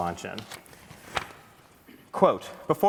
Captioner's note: paper rustling